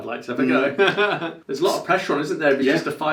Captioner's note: laughing